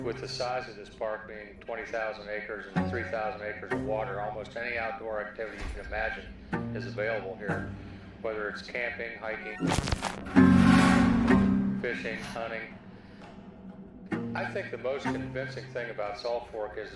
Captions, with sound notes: with the size of this park being 20,000-acres and 3,000-acres of water, almost any outdoor activity you can imagine is available here, whether it's camping, hiking... (computer static bleeping) (tense music) Fishing, hunting. I think the most convincing thing about Salt Fork